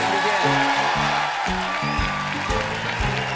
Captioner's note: cheers and applause; band playing